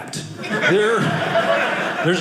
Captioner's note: audience laughing